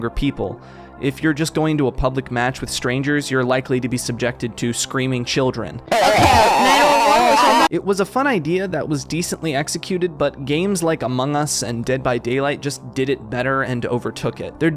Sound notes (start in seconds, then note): 5.9 children screaming